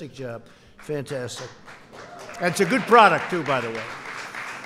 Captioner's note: applause